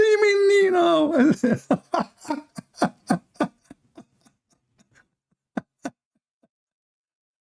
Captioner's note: Ketawa